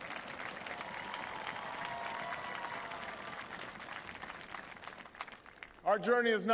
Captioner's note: applause